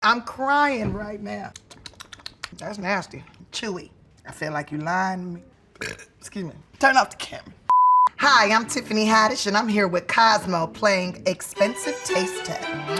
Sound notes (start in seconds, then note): 1.5 lips smacking; 5.8 burping